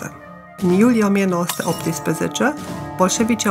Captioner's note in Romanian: zgomot spargere sticlă